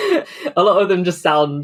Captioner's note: laughs